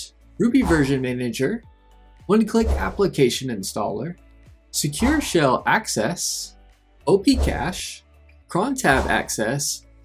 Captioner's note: ssh